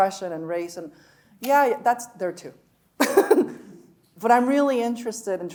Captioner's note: chuckling